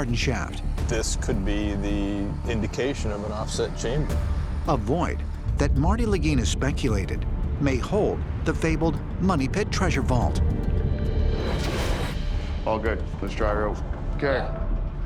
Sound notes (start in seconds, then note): none